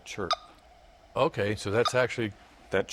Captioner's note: chirping